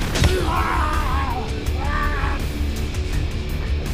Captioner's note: Gundra screams